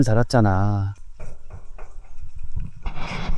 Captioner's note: knock, knock, knock